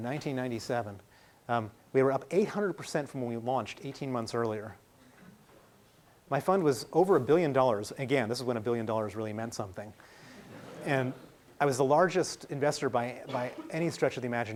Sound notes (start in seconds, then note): 10.3 laughing